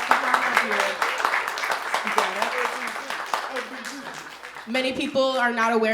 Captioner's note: audience applauding